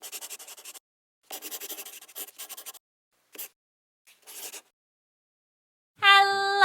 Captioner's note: the sound of a pen scratching